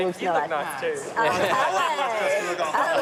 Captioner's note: laughs